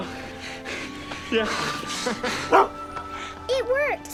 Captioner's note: dog barking